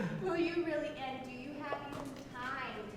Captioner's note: laughs